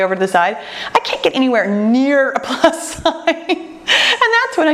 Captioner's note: laughs